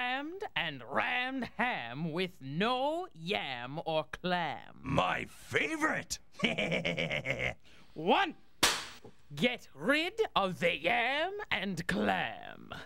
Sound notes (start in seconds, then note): 6.3 chuckles; 7.9 cracks pointer